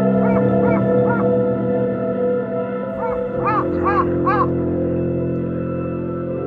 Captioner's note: the cry of the winter crow echoes through the quiet